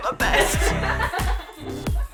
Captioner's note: all laugh